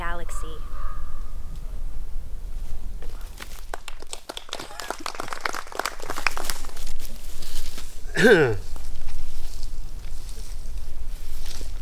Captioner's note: coughing; clears throat; sniffs; applause